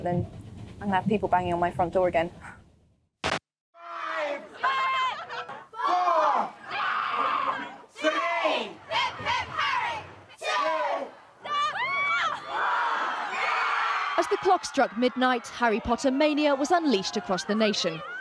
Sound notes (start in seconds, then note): 4.2 crowd; 7.7 people screaming; 14.1 people screaming